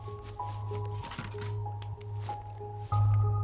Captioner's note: steel clattering